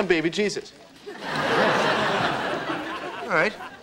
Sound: audience laughing

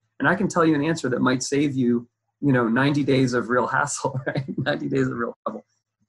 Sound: laughs

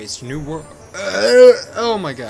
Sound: retches/ yawns

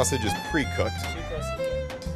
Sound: voiceover

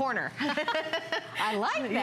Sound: laughter

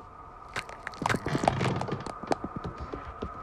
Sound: knuckles Cracking

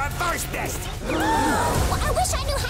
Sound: gasping

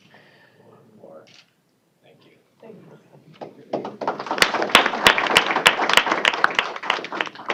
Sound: applause

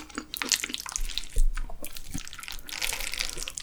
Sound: mixing sound that stimulates the salivary glands

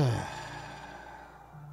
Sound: sigh

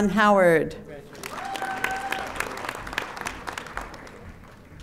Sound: audience applauding

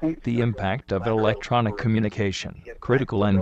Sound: voiceover

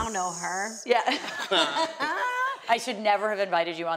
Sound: all laugh

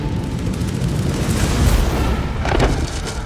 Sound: explosion

